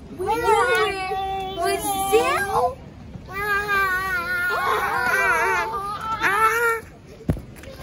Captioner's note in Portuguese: all scream